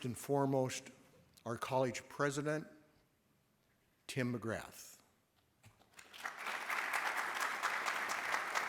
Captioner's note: applause